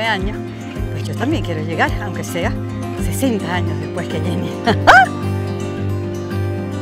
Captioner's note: laugh